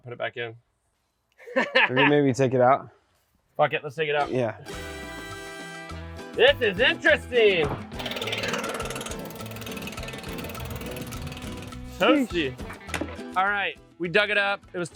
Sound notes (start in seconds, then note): 1.4 laughs; 4.6 Latin music; 7.9 blower motor running